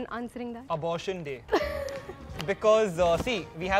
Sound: laughs

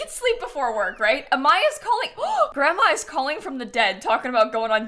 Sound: gasps

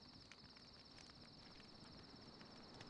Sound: none

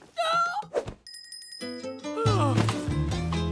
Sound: groaning; bell ringing

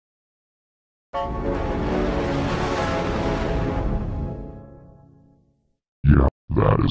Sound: 4-Eyed Devil Windows XP Startup Sound

